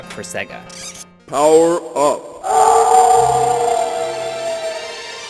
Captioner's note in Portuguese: Poder da Fera Alterada! Som de lobisomem